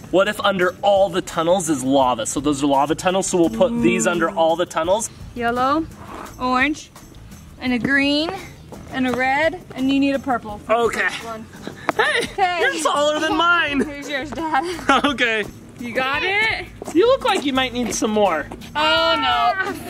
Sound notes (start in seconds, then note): 12.8 chuckles